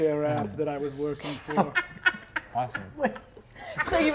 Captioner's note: laughs